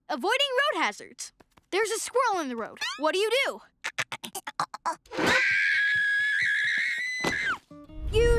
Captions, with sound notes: avoiding road hazards. There's a squirrel in the road. What do you do? - [imitates squirrel chattering] - [screams]